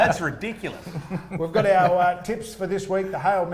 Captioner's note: laughing